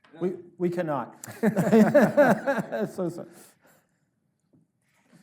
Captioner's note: all laughing